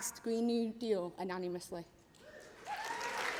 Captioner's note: applause